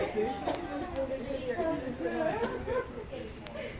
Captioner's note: crowd talking